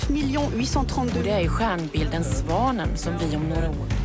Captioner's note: reporter speaking French; reporter speaking foreign language